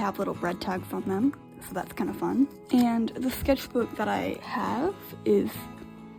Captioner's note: none